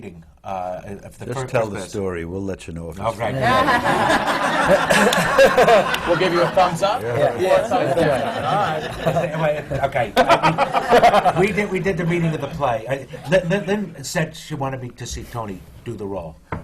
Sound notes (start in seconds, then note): 4.0 laughter; 5.0 laughs; 10.4 laughter